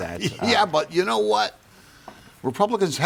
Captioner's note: laughs